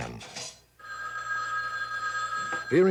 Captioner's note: phone ringing